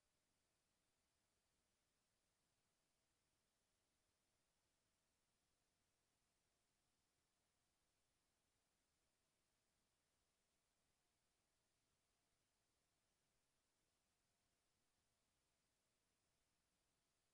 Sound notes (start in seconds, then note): none